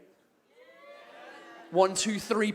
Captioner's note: a few people whoop, others boo